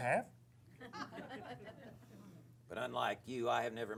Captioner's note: laughter